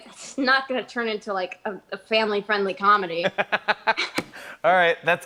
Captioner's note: both laugh